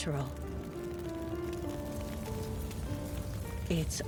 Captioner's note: fire crackling